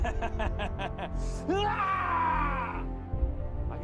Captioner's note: laughing; yells